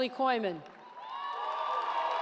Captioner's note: cheers